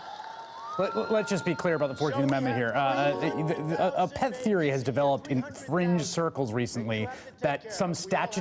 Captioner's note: cheers and applause